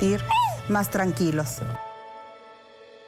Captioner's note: speaking spanish